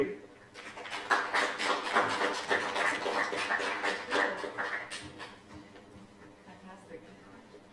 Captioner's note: applause